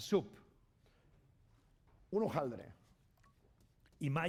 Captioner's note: speaking spanish